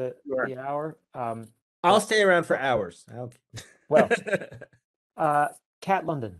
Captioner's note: laughing